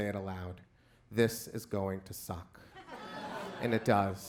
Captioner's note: crowd laughs